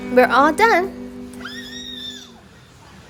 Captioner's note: squeals